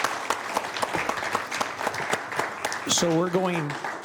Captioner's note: applause